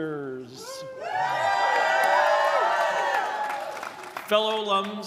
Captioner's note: directors cheering